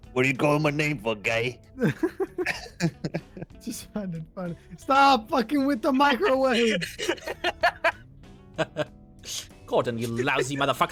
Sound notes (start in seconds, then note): 1.8 laughs; 6.2 laughs